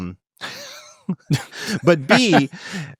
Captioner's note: laughing